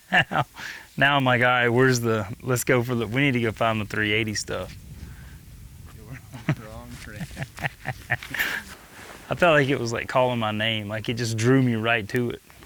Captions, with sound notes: Now my guy wears the... We need to go find the 380 stuff. - Wrong terrain. (laughs) - I felt like it was calling my name. It just drew me right to it.